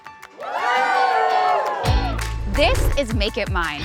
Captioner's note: people cheer